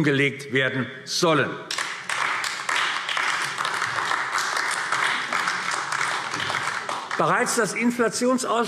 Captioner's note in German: Beifall AfD